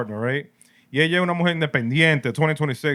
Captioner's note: speaking Spanish